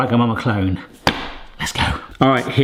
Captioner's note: hands slap